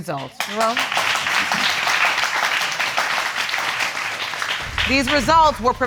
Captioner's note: audience clapping